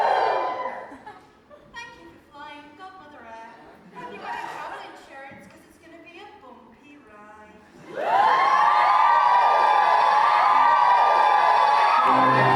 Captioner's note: audience cheers; audience cheers